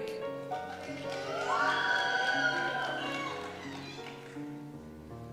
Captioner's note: cheers